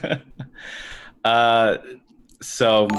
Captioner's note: laughter